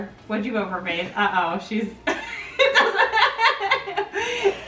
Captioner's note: laughs